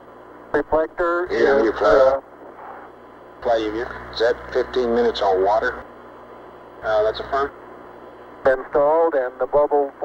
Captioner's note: mission Control Audio